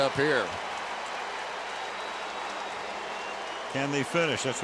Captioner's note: cheering